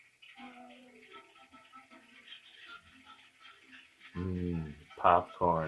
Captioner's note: popcorn pops rhythmically; hums hungrily